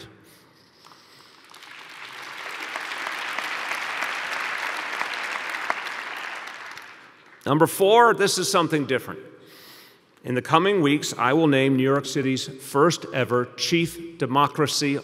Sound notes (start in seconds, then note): 7.3 applause